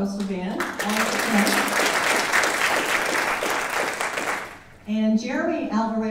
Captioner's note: audience applauding drowning out speaker